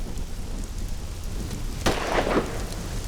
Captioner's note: gun shots